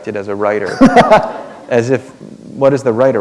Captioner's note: laughter